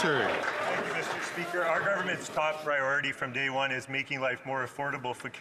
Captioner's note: some Applause